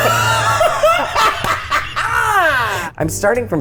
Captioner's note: laughing; hands clapping; smooth jazzy music begins